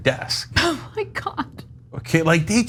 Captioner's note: laugh